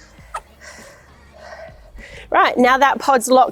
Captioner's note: breathes